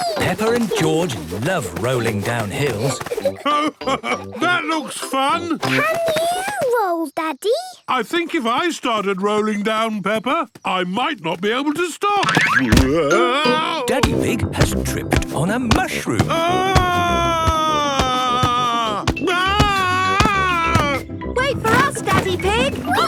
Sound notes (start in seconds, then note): 16.2 shouting